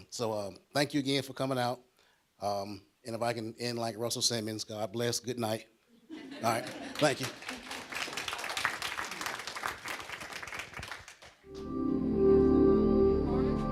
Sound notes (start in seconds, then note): 6.1 audience laughs; 6.5 applause; 11.5 calm electronic music